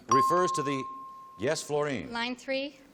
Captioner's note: ping